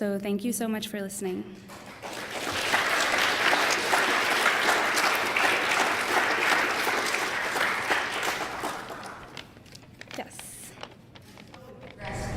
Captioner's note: applause